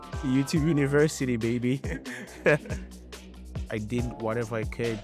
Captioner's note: chuckles